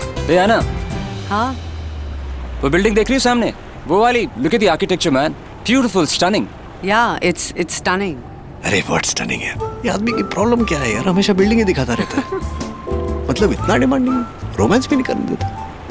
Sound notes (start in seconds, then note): 11.8 laughing